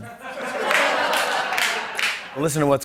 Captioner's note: laughter